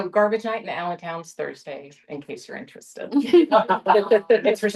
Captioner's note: laughter